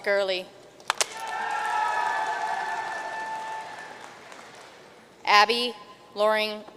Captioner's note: audience cheering and applauding